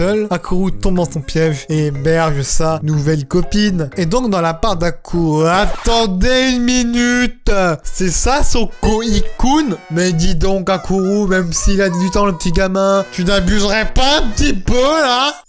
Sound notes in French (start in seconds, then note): 5.6 disque rayé